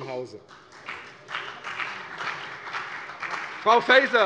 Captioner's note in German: Beifall CDU und BÜNDNIS 90/DIE GRÜNEN